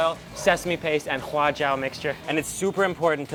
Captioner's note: speaks in a foreign language